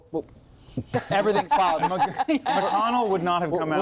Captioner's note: laughter